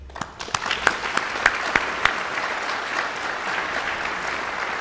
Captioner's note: guests applauding